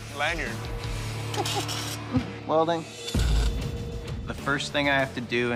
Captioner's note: chuckling